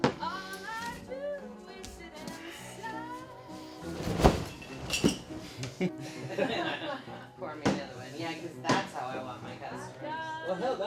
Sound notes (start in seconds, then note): 3.8 crashing; 5.4 laughing